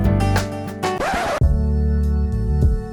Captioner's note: record scratch; neo-soul music